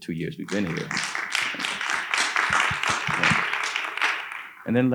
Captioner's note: audience applauding